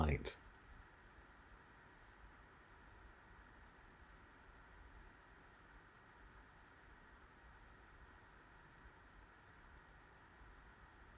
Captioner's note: silence